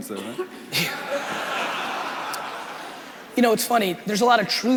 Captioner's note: crowd laughing